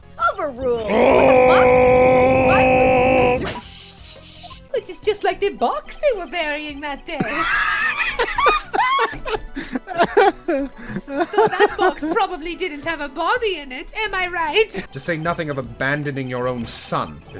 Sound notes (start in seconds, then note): 7.2 laughter